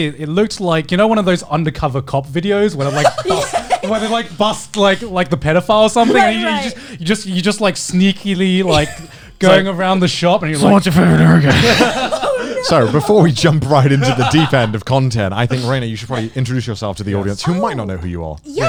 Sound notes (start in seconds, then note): 2.8 laughing; 10.5 grumbles; 10.5 all laughing